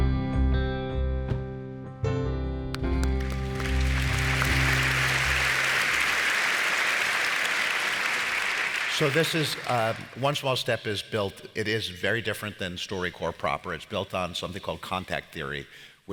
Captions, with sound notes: (gentle music) (audience applauds) - So this is, One Small Step is built, it is very different than StoryCorps proper. It's built on something called contact theory,